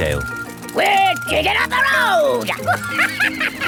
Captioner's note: chuckles